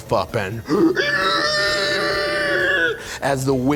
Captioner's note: howling